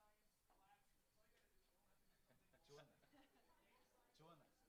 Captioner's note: speaking faintly